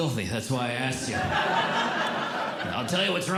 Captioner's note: audience Laughing